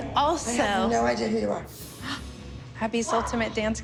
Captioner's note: gasps